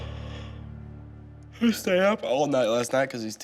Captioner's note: yawns